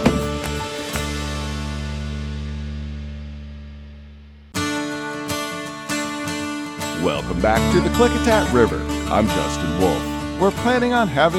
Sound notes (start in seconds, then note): 0.0 fish thrashing; 1.4 cooler lid closing